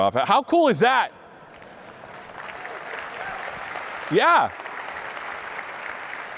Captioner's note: applause